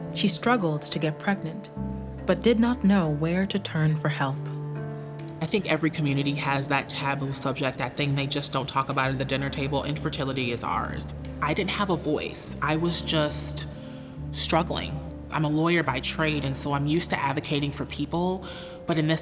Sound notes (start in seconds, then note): 5.1 mouse clicks